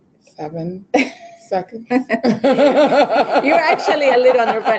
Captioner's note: laughing